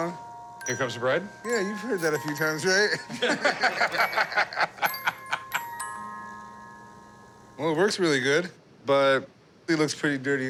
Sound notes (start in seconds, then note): 2.9 laughter